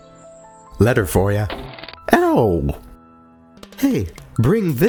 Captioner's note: pow